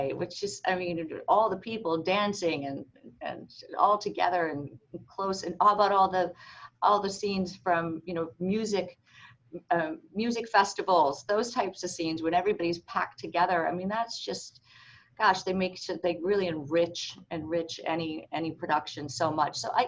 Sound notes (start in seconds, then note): none